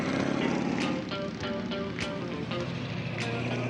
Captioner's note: slow rock music; engines revving